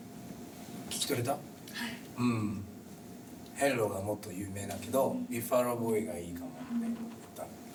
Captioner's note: speaking Japanese